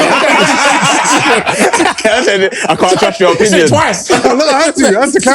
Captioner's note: laughter